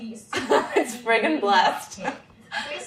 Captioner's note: laughs